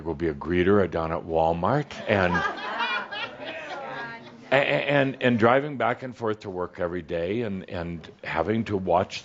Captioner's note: some chuckles